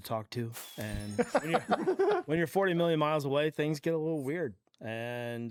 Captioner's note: others laugh